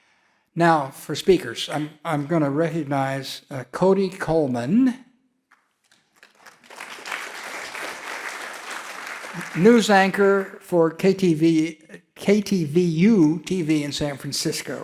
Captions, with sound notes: Now for speakers, I'm gonna recognize Cody Coleman. (audience clapping) News anchor for KTVU in San Francisco.